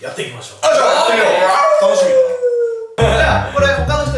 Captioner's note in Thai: เสียงหมาหอน